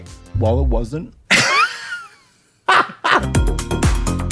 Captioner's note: Trixie laughs; whimsical music